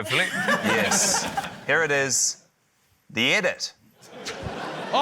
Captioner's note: laughter